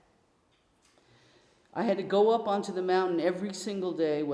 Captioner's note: none